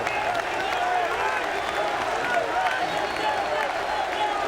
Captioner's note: crowd clamoring